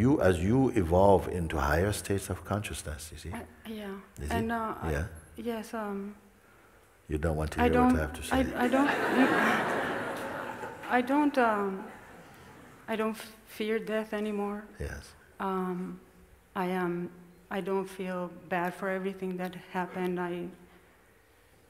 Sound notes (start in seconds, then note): 8.6 smijeh